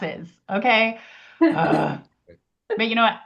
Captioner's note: groans